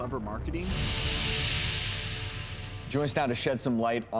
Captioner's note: intense sound effect